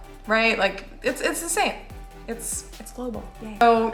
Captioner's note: sarcasm